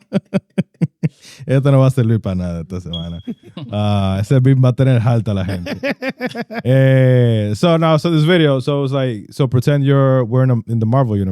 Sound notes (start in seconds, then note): 1.0 laughing; 1.0 speaking In Foreign Language